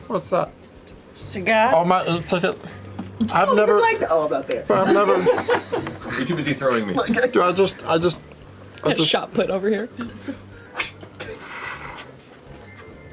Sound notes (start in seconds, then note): 11.4 whoosh